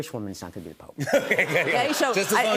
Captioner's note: laughter